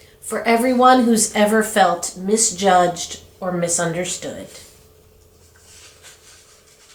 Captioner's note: none